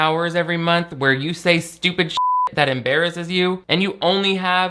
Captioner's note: beep